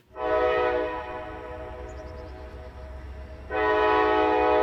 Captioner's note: train whistle blows